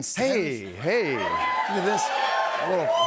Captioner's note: cheers and applause